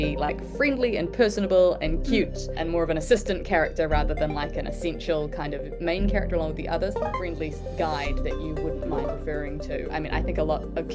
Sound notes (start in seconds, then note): 8.2 happy CHARLI noise; 10.2 curious CHARLI noise